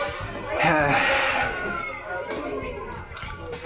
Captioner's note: sighs